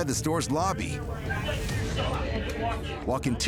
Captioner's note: indistinct chatter